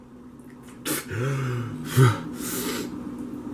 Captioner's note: panting